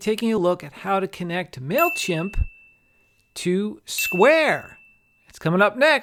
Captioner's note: comic dings